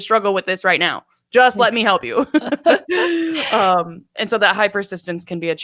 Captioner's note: laughs